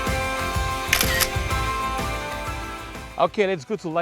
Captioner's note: camera shutter